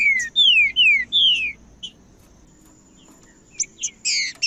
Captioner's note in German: trinca ferro cantando